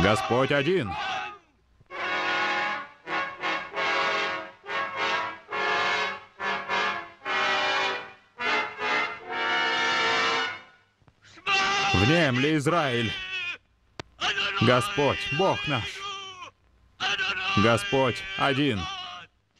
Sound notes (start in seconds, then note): 1.9 orchestral music; 11.6 speaking in foreign language